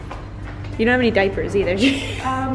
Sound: laughs

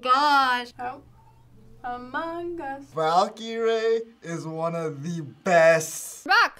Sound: sing-song

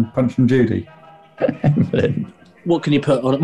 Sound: laughing

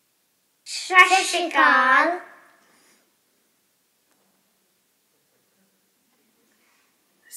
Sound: children speaking non-English greeting

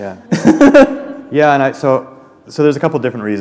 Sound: laughter

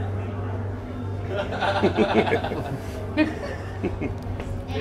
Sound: laughing

